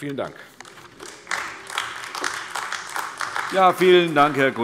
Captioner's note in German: Beifall AfD